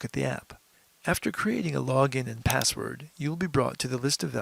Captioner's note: mouse click